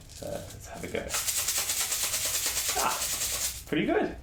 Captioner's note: shaker rattles